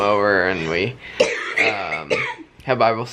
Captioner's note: coughing